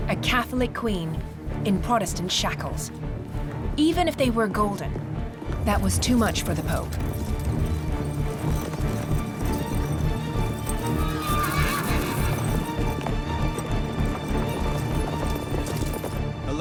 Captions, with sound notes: A Catholic queen in Protestant shackles. Even if they were golden, that was too much for the Pope. (dramatic music) (horse neighs) (dramatic music)